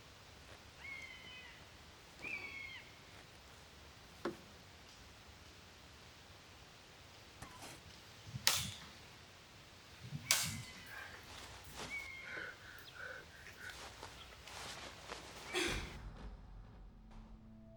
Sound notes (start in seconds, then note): 12.2 Catherine panting